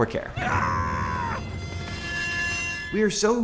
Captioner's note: scream